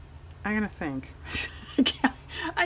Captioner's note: laughs